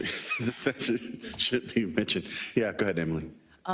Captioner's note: laugh